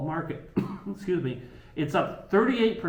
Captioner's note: coughs